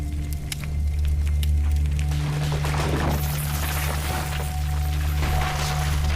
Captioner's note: Crashing